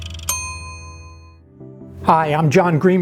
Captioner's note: loud ding